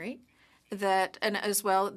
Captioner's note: speaking French